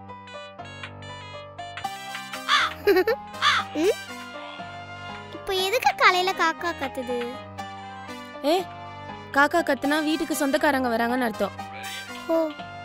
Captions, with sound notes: (Crow caws...)Why is that crow cawing now? It means we might have a guest. -Oh!